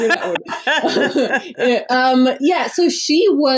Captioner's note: laughs